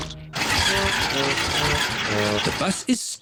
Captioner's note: engine stalls